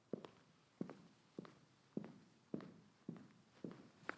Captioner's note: footsteps tapping